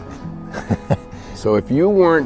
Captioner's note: laughs